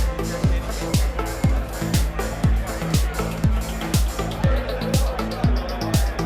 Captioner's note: indistinct crowd chatter